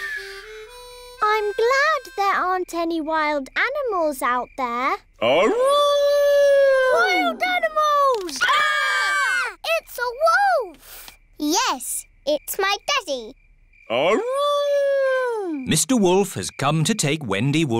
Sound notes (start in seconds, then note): 6.1 howling; 8.0 all screaming; 13.2 howling